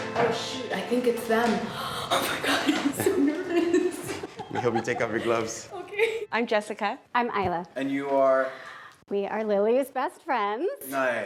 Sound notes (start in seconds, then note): 2.2 laughs